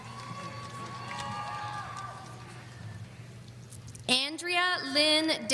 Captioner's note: audience applauding